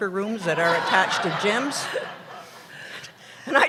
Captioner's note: laughter